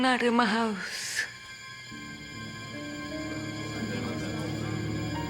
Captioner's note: people murmuring